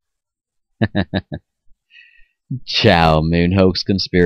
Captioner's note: chuckles